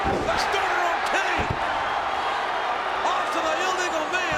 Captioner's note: audience cheers